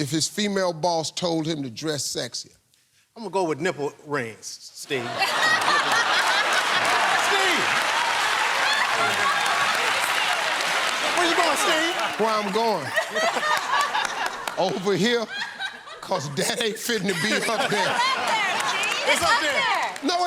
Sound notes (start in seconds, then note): 5.0 laughter; 8.6 cheers and applause